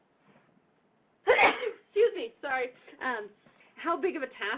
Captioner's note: sneezes